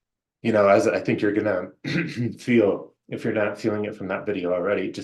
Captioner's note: clear throat